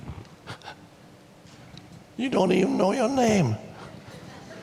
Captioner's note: chuckles